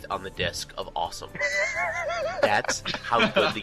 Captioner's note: laughing